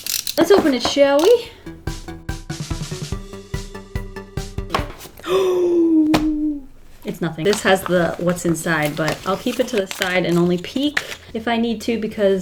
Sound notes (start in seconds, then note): 5.2 gasps